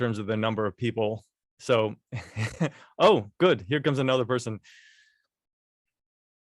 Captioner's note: laughter